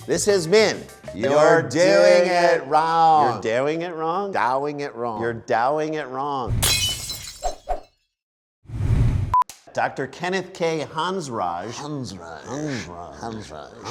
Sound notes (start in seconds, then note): 6.6 glass breaking